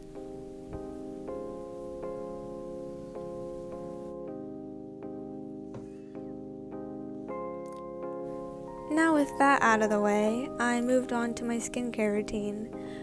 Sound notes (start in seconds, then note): none